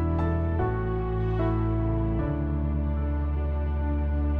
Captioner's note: none